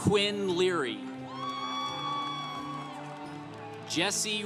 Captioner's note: congregation applauding